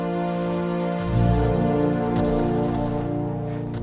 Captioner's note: gunshots